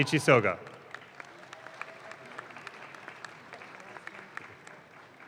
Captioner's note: audience claps